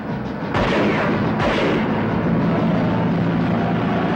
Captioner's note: gunshots roaring